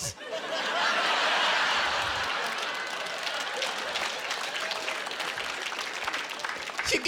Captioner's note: laughing